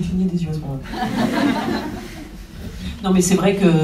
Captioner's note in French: rires